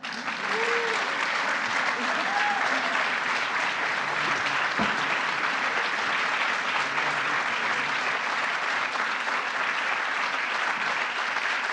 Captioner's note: applause